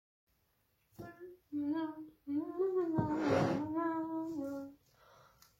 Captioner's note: hums